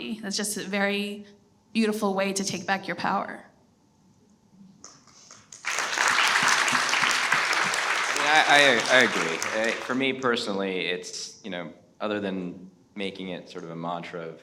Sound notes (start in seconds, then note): 5.2 everyone applauds